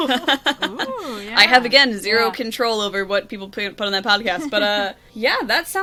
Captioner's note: laughs